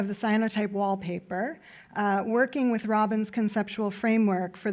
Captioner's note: none